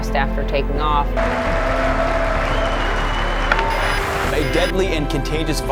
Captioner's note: audience applauds